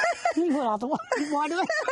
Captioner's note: laughing; laughter drowns out speaker